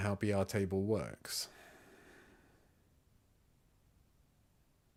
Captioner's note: silence